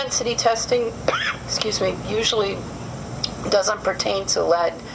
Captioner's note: cough